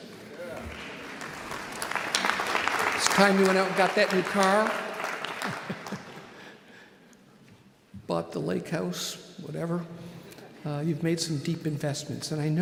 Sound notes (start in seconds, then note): 0.0 audience applauding; 5.3 laughs